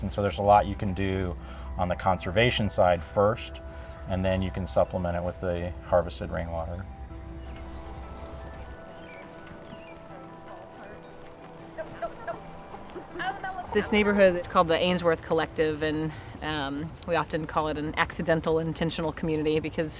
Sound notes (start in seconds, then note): 7.6 birds chirping; 7.6 upbeat music playing